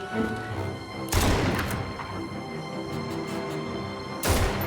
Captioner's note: guns firing